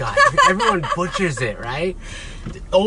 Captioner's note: laughs